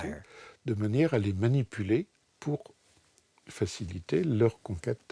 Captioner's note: French spoken audio